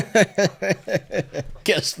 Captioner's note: cackles